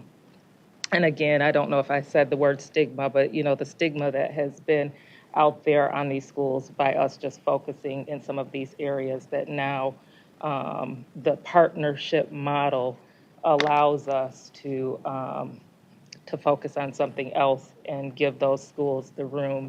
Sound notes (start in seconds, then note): none